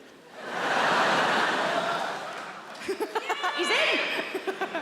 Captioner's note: audience laughing